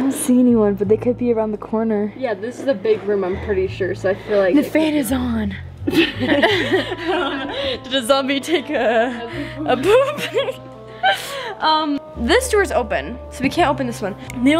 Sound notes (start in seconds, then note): 5.8 laughing; 11.1 giggling